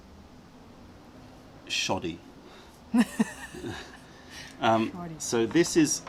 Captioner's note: laughter